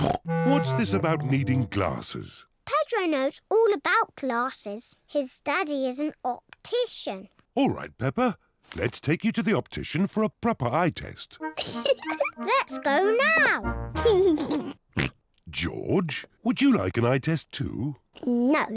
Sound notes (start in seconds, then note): 0.0 snorts; 11.5 laughs; 14.0 laughs, snorts